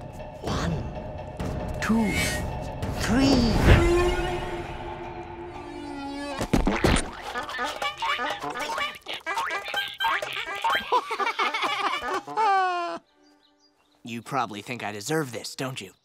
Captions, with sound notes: One, two, three. [squeaking] [laughing] [sighing] You probably think I deserve this, don't you?